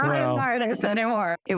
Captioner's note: laughter